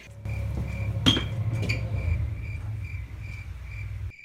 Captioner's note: crickets chirping